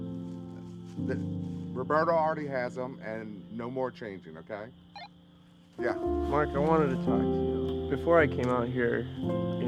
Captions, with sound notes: Roberto already has 'em and no more changing, okay? (walkie beeps) Yeah? - Marc, I wanted to talk to you. Before I came out here, you know,